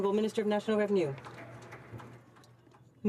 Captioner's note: some Applause